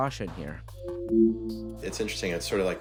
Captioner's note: device chiming